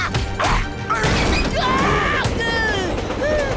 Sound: grunting; screaming

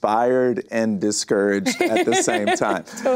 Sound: laughs

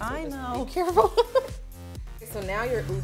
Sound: light laughter

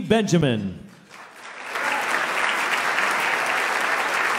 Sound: loud clapping

